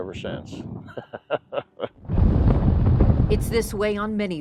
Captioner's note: laughing